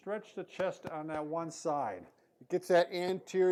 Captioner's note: tapping chest